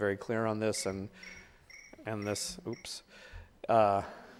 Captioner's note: chirping sound